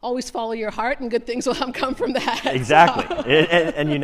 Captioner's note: laughs